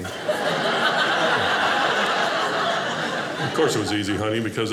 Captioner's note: audience laughing